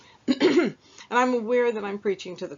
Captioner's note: clears throat